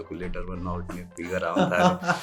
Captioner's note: mild laughter